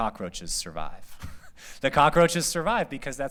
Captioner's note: laughter